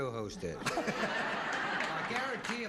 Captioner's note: all laughing